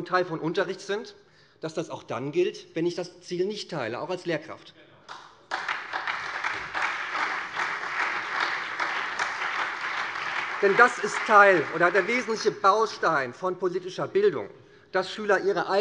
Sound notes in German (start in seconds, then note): 5.0 Beifall SPD, Freie Demokraten und vereinzelt BÜNDNIS 90/DIE GRÜNEN